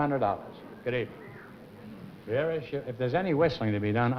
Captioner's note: whistling